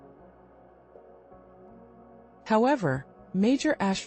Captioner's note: pause